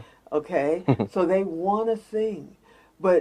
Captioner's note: chuckles